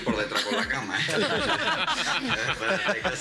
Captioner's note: laughs